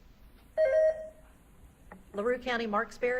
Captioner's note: beep buzzing